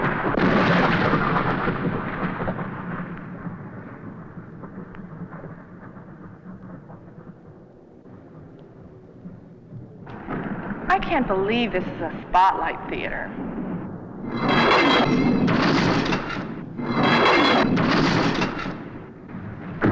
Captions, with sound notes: - I can't believe this is a Spotlite Theatre. (doors slam)